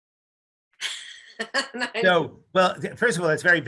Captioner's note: laughs